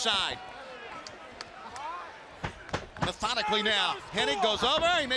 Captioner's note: crowd chatter